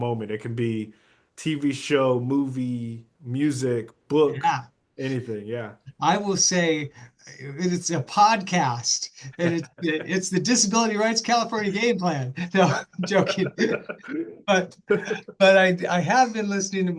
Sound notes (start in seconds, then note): 12.4 laugh